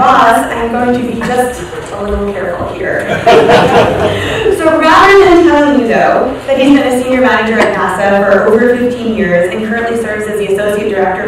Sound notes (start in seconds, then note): 3.0 laughter